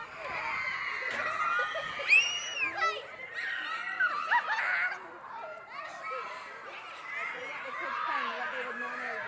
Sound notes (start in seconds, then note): 1.2 giggling; 2.0 child screeching